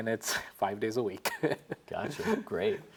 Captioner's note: chuckles